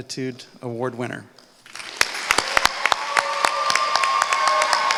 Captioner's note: applause